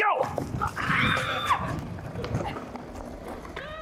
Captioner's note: girls scream with excitement